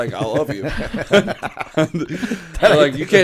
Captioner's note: laughter